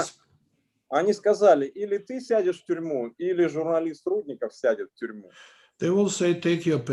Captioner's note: speaking Russian language